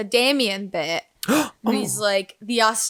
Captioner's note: exclaims